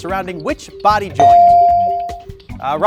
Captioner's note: bell dings